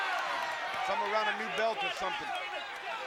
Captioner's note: applause